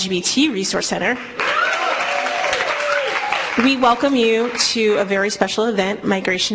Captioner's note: applause